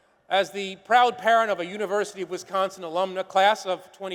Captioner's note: none